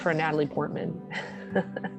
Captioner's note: laughs